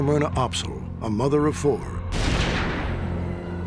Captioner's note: gunshot